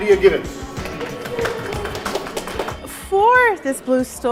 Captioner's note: audience applauding